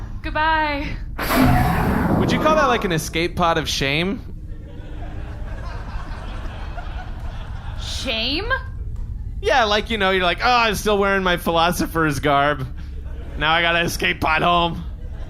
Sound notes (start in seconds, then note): 4.6 audience laughter